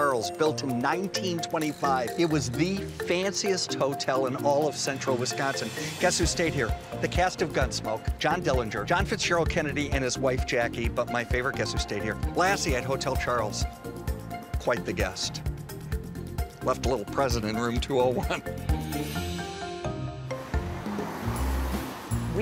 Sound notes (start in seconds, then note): 18.5 chuckles; 19.0 upbeat music